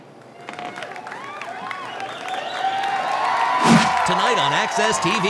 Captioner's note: audience applauding